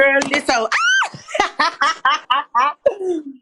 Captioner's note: laughter